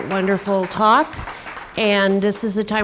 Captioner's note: applause